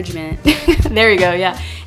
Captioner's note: laugh